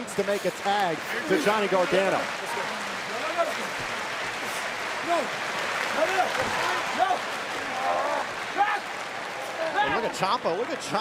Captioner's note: crowd cheering